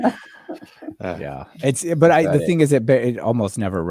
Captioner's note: laughing